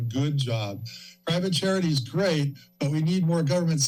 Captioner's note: inhales